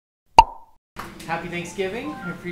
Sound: shrill popping

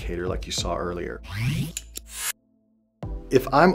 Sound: zapping

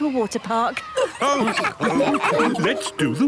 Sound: all laughing

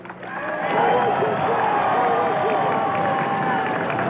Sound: applause

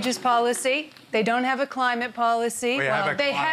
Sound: laughs

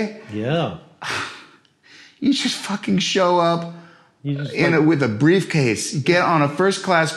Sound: sighs

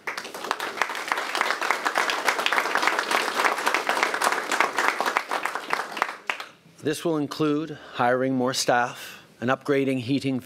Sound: applause

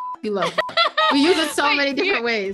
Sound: beep

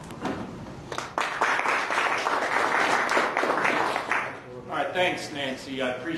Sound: audience clapping

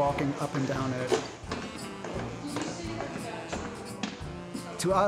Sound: footsteps

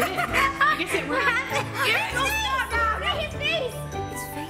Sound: kids laughing

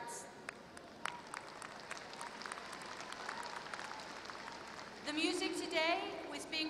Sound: applause

